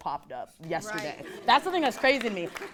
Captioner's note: audience claps